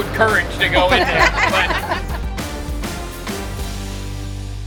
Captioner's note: laughs